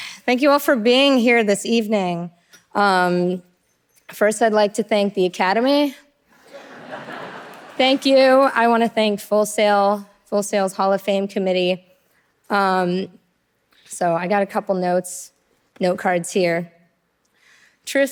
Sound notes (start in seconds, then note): 6.4 audience laughing